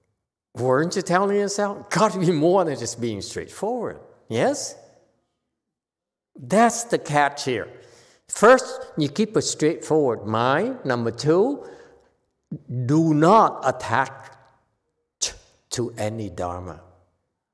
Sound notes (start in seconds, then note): none